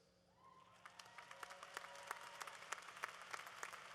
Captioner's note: applause